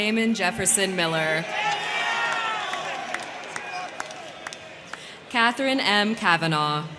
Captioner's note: crowd cheering; crowd clapping